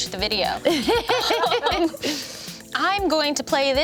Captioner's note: everyone laughs